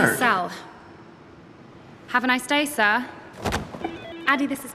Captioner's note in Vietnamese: điện thoại reo